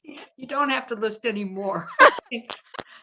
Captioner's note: laughing